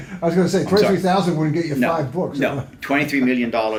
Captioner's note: laughs